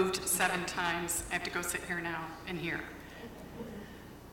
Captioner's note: laughter